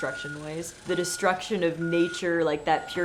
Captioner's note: trucks beeping